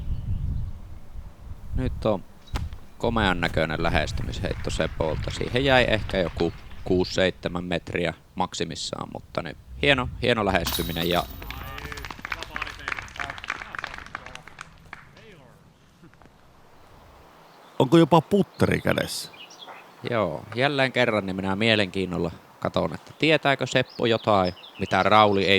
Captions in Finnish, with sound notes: päässyt nyt on komean näköinen lähestymisheitto Sepolta siihen jäi ehkä joku 67 metriä maksimissaan mutta niin hieno hieno lähestyminen [Aplodeja] ja onko jopa Putteri kädessä joo jle kerran niin minä mielenkiinnolla katson että Tietääkö Seppo jotain mitä Rauli ei